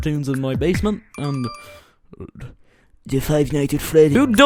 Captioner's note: inhale